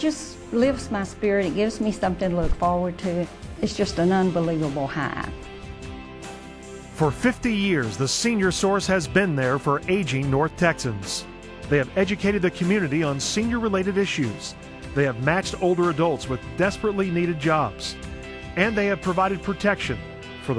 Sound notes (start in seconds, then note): 7.3 voiceover